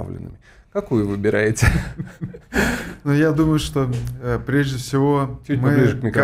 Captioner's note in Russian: смех